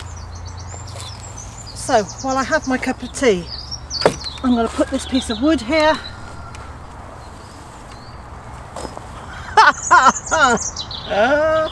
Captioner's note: laughter